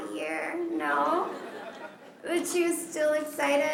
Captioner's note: laughter